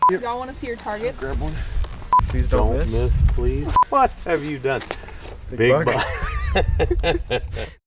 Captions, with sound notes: - Y'all wanna see your targets? - Grab one. - Don't miss, please. - What have you done? Big buck. (chuckling)